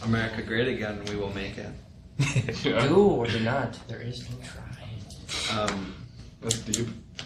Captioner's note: chuckles